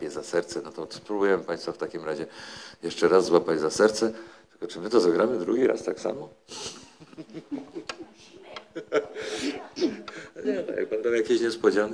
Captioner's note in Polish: śmiech